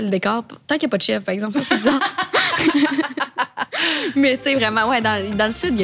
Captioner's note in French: rires